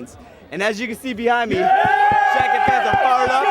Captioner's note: fans Cheering